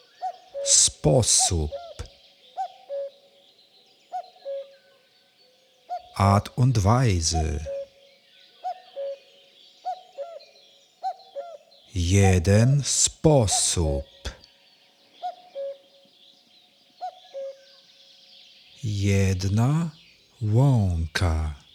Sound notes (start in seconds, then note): 8.2 german